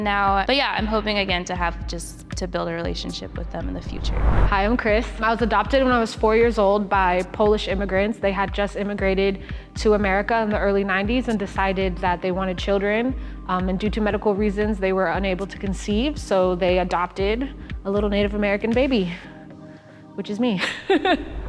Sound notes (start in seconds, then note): 20.4 laughs